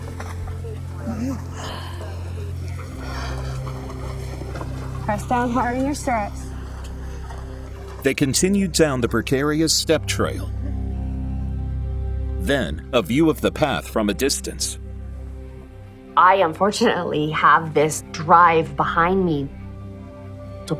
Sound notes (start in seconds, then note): 0.0 breathing shakily